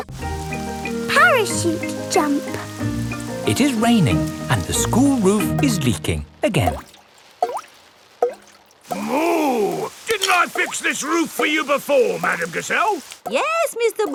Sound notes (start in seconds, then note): 7.9 water dripping